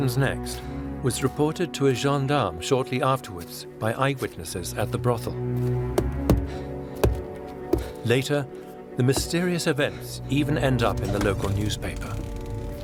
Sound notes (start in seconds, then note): 7.0 knocks on the door